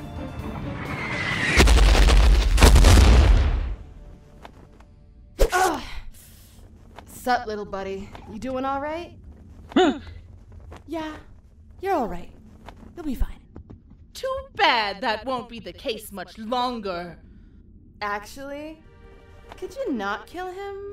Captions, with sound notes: *Groans* sup little buddy you doing all right? *Scared gasp* yeah you're all right. you'll be fine too bad that won't be the case much longer actually. could you not kill him?